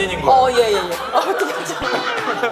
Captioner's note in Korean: 푸학